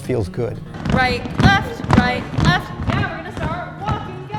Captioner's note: feet stomping